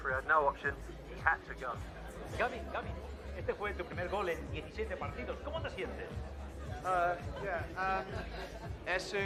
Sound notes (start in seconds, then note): 3.4 berbicara bahasa spanyol